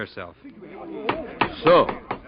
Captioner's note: knocking